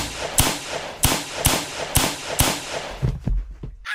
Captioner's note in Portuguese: Som de tiros